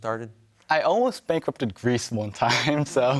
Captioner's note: chuckling